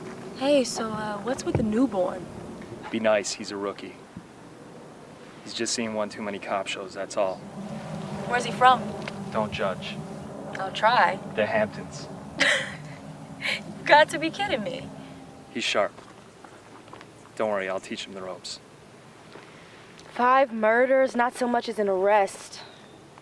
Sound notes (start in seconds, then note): 12.3 laughs